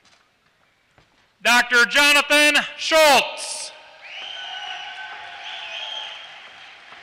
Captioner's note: applause